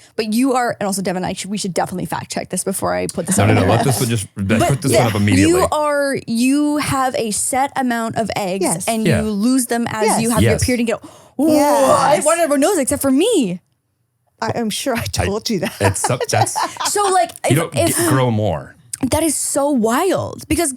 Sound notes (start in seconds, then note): 15.6 laughing